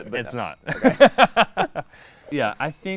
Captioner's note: laughing